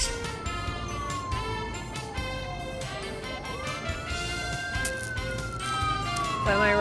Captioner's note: distant sirens